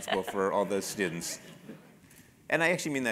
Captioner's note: laugh